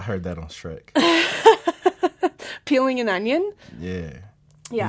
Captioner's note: laughs